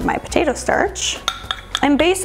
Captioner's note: spoon clanging